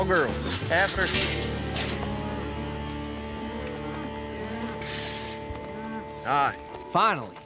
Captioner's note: mooing